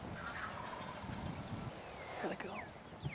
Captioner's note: turkey gobbles